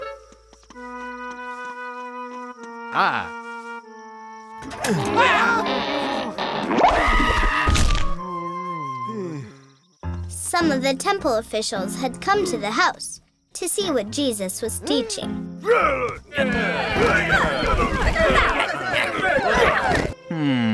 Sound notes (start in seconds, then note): 6.7 screaming; 7.2 man screaming; 7.6 thuds; 10.6 voiceover; 15.6 grunting